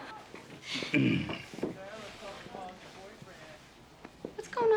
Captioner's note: Nash clearing throat